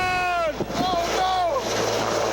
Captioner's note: man yelling